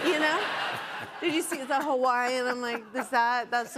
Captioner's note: laughter